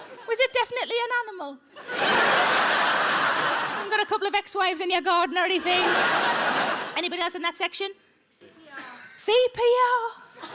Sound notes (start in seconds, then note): 0.0 audience laughs; 1.8 audience laughs; 5.5 audience laughs; 10.3 audience chuckle